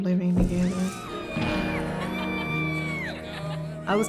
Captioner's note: laughs; screams